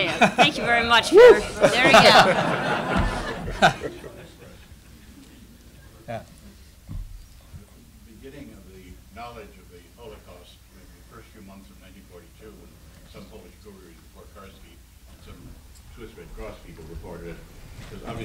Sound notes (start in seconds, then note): 3.1 laughter